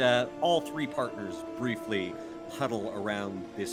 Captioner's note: none